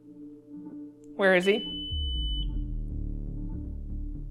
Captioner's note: eerie music; device beeping; eerie music